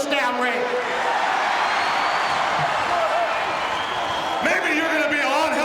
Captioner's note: audience cheering